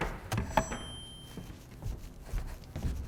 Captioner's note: mic feedback